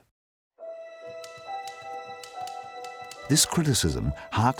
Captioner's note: typewriter keys clacking